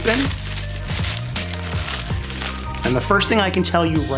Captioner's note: plastic rustling